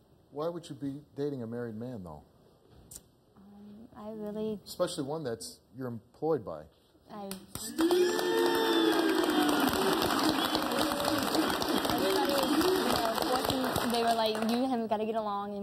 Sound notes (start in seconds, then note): 9.8 audience applauding